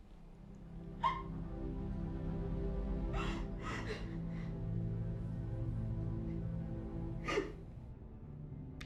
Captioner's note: Sarah sobs